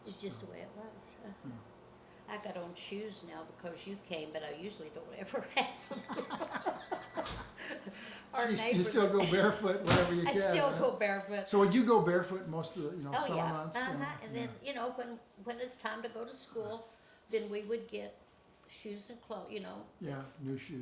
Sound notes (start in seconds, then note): 5.5 both laughing